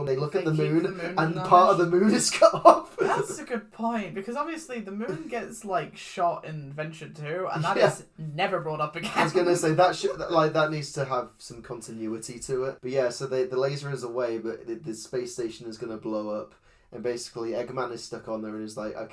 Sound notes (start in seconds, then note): 1.1 laughs; 9.0 laughs